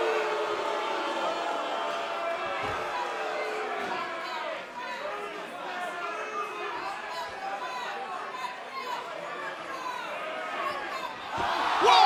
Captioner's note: cheers & boos